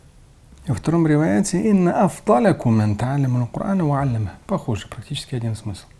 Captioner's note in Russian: говорит на арабском; говорит на арабском